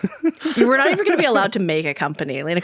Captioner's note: laughing